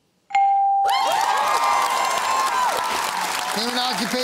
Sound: cheering and applause

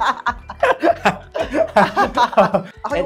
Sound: laughs

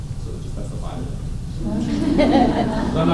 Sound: laughter

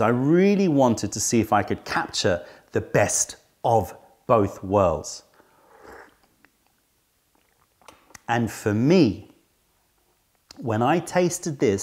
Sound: sips tea

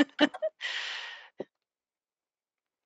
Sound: laughter

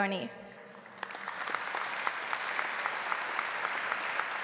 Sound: audience applauds

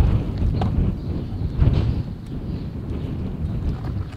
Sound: blowing wind

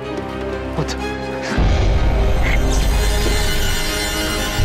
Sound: mummy growling; thrilling music

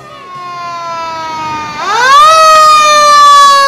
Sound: siren wailing

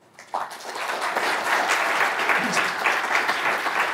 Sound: audience applauds

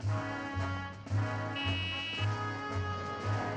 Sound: horn honks

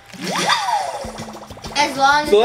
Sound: water splashing; cheering

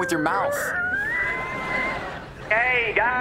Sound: creaking

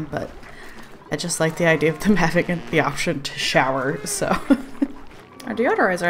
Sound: laughs

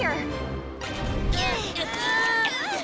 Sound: groaning

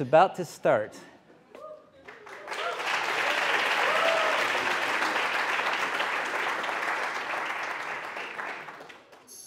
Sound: applause

